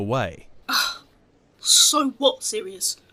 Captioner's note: James sighs